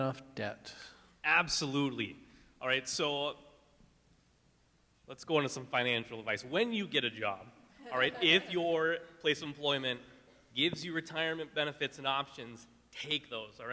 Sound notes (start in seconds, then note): 7.8 laughing